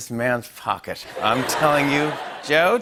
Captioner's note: laughter